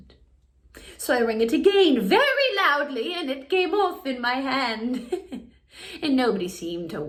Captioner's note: chuckles